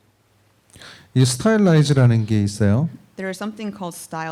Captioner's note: speaking korean